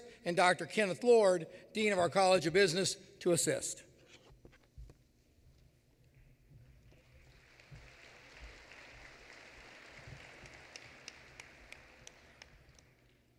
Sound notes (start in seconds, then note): 6.9 applause